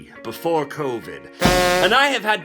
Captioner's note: rim shot & clown horn